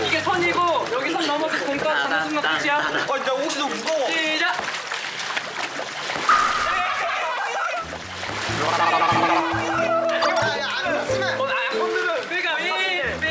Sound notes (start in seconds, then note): 8.6 gurgle